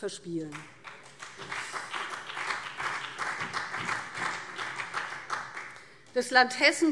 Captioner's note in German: Beifall